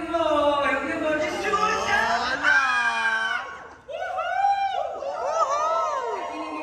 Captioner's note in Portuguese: grita